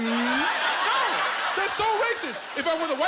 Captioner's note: laughing